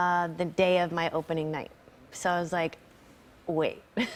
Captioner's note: chuckles